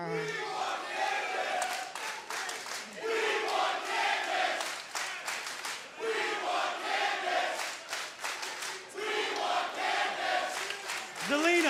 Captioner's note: crowd cheering